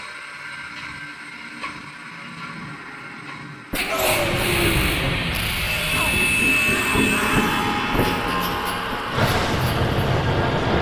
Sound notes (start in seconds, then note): 3.8 intense music; 3.9 Paul screaming; 5.6 Phil and Julie screaming